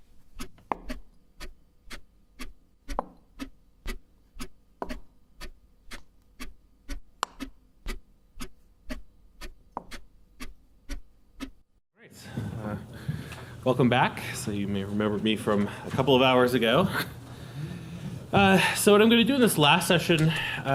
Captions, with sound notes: [chess pieces moving] [ticking clock continues] Alright. Welcome back. Some of you may remember me from a couple hours ago. So what I'm gonna do in this last session